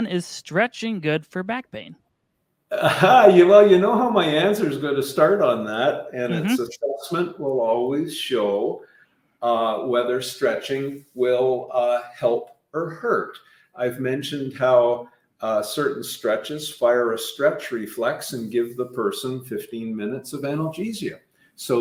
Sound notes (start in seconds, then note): 2.7 laughing